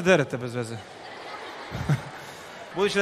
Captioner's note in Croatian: smijeh